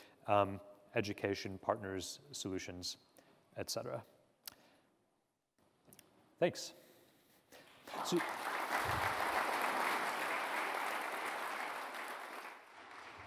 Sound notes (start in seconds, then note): 7.8 audience applause